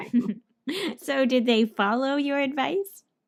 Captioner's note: ha ha